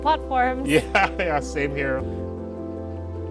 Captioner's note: laughing; gentle music continues